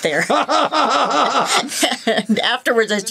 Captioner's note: laughing